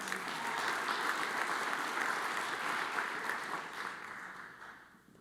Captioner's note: audience applauds